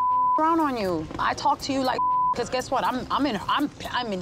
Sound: beep

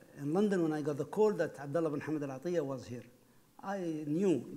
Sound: speaking foreign language

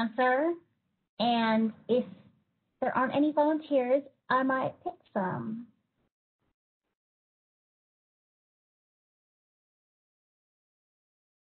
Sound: long silence

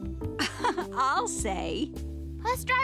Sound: laughs

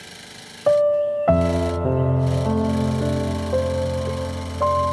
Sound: serger sound

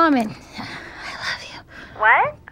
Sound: whispers

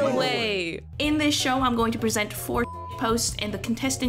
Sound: beep

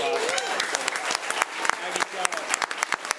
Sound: applause

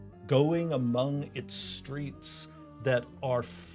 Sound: none

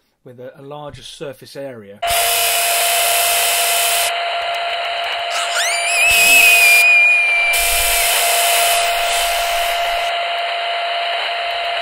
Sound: screaming, harsh noise

